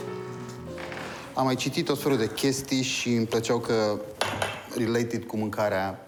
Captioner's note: speaking foreign language